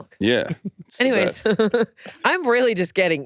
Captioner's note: laughs